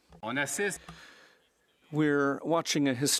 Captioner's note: speaking French